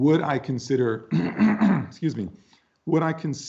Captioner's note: clears throat